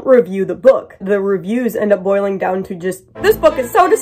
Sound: mocking GoodReads voice

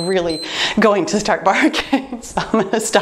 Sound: timer beeps

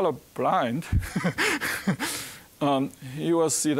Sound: chuckling

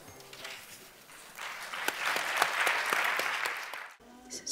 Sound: applause

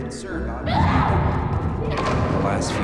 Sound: screaming

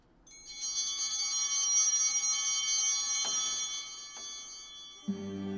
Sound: bell ringing

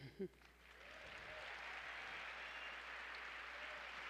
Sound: applause

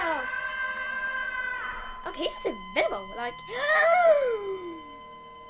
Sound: very difficult inhale

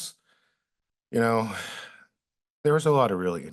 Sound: sighs

